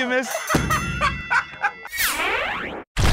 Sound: laughter; ding!

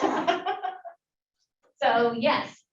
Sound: laughs

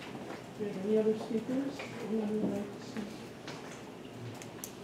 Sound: faint chatter

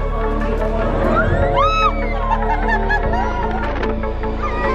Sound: lively music begins; family laughing

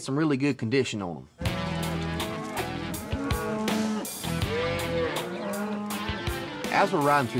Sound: mooing

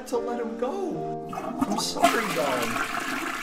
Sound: toilet flushes

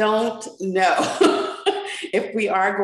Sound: chuckles

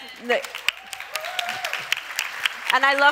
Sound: crowd applauds

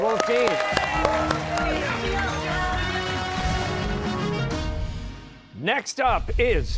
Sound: cheers and applause

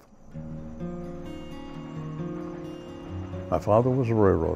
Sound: train in motion

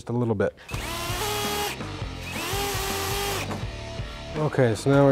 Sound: mechanical whirring

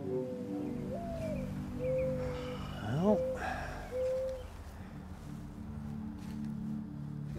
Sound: sound: Bird Noise

